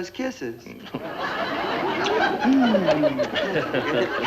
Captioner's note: kissing and humming